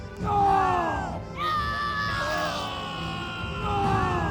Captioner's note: crowd shouts in despair